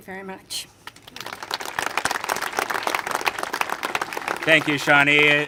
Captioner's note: congregation applaud